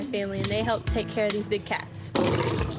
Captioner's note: growls